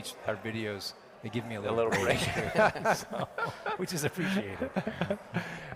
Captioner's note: laughter